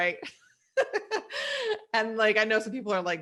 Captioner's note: laughs